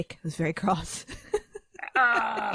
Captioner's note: laughs